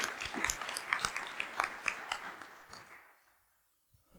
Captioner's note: applause